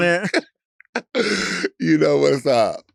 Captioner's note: Latrice laughing